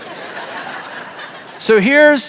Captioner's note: audience laughs